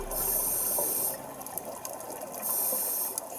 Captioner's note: water gurgles